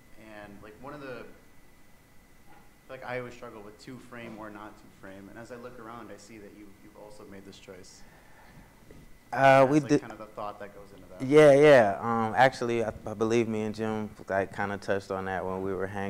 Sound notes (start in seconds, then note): none